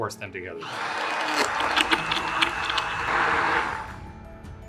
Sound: blender whirring

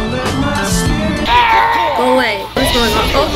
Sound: Lego Yoda death noise

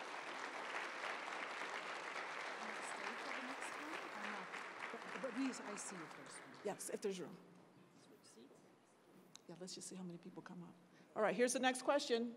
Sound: applause

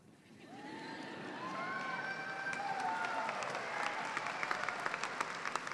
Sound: applause

